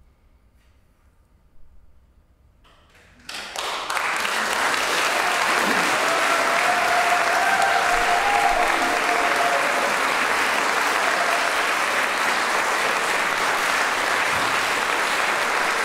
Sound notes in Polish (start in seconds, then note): 2.9 aplauz